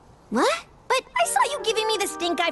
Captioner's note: none